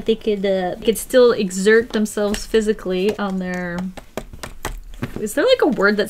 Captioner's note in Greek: Χτύπημα